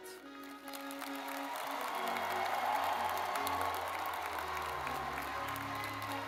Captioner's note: lively music; audience clapping